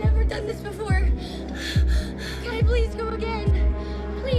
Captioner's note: breathing rapidly